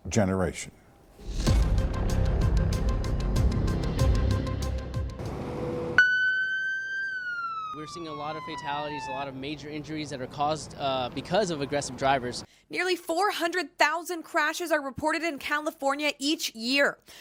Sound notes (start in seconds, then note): 5.4 siren